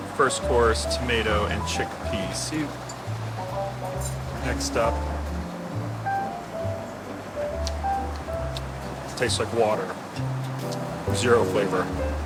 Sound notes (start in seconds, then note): 6.2 light bouncy music; 8.3 chewing